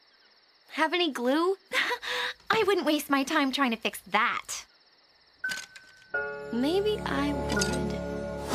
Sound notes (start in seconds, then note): 2.1 scoffs